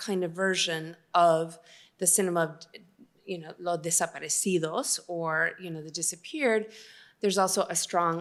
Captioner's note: spanish